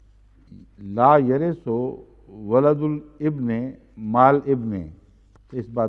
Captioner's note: Arabic